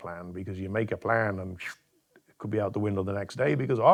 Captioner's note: mimics swooshing